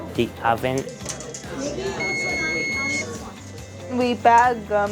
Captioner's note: sound of oven timer beep